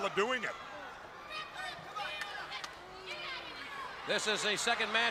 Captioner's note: crowd chatter